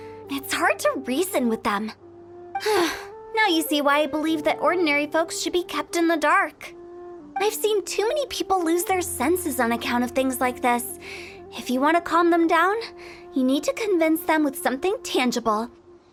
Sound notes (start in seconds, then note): 2.6 sigh